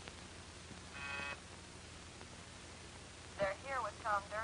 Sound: intercom buzzes

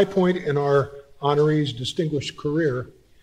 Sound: none

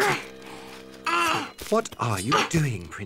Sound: grunts

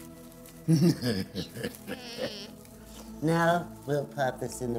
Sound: cackling

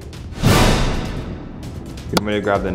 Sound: dramatic sound

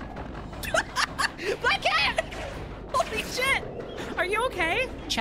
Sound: laughing

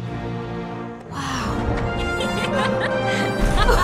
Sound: sammy giggles

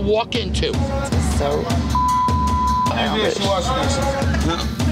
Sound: beep

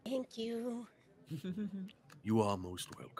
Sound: laughs

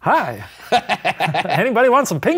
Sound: laughing

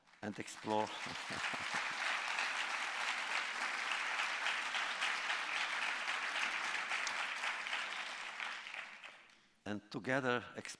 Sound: applause

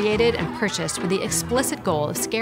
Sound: birds squawking

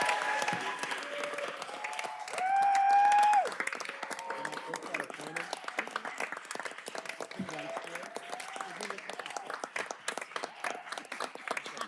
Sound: cheers and applause

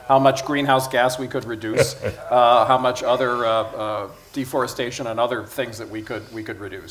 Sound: Sadhguru laughs

